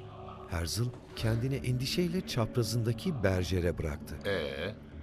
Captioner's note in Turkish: Hep bir ağızdan